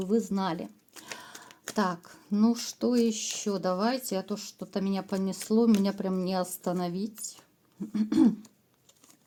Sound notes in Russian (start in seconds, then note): 7.8 откашливается